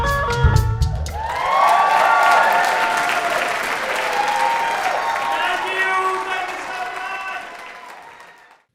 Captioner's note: audience applauds